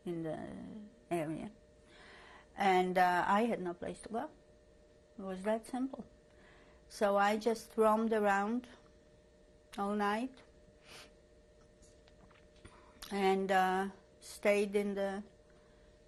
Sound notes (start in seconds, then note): 10.7 pauses for 3 seconds